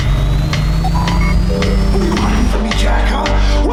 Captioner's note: engine revving; radar beeping